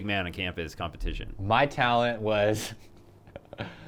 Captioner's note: laughs